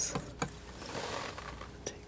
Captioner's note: scratching